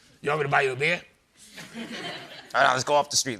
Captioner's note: laughter